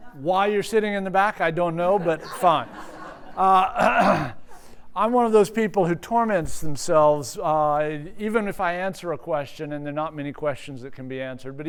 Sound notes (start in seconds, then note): 1.8 laughters